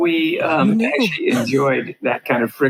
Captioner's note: laughs